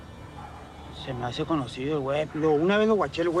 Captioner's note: man speaking spanish